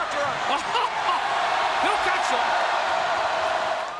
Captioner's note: laughs